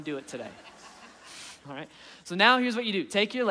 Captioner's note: audience laughing